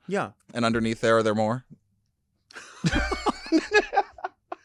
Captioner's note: laughing